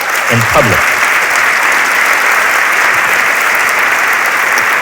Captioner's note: audience cheering